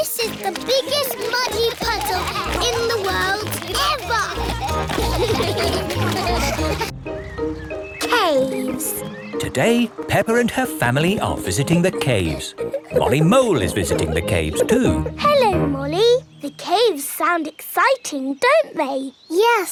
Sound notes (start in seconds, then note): 3.4 all giggling; 5.2 all laughing